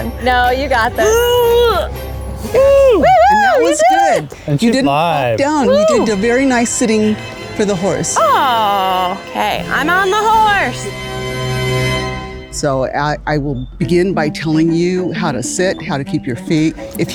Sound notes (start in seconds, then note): 0.9 grunts; 11.1 triumphant trumpet music